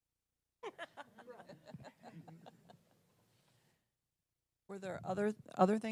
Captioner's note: laugh